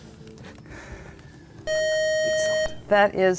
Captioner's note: buzzer